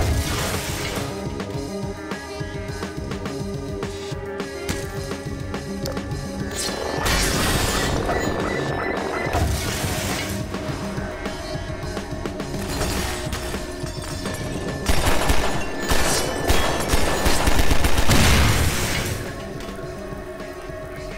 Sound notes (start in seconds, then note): 6.5 Manhack whirring; 6.5 Manhack alarm blaring; 7.0 metal smashing; 9.3 metal smashing; 12.6 glass breaking; 12.6 gunshots; 18.0 barrel exploding